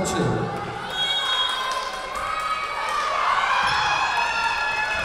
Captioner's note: whistle blowing